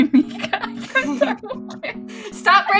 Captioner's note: laughter